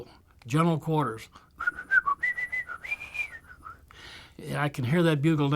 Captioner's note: whistling